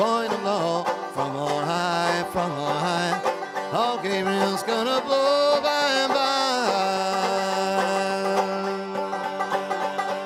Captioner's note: humming